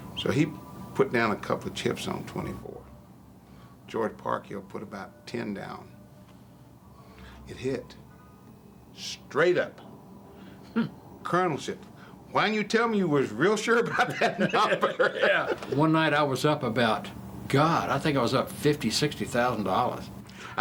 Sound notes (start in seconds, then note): 13.8 laughing